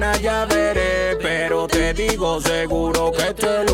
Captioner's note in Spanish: none